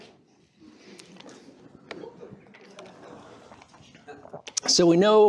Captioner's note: laughter